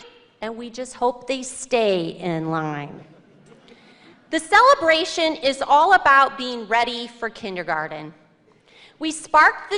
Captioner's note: laughter